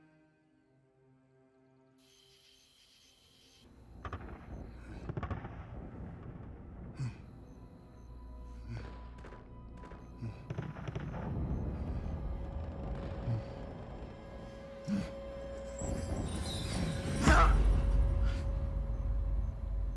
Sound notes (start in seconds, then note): 2.2 crickets chirping; 4.1 guns firing; 10.3 dramatic music building; 17.2 yells in fear